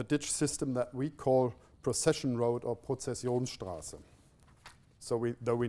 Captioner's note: non-english speech